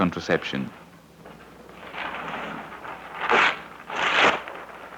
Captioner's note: sheet tearing